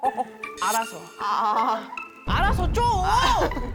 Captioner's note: passing the buck sound effect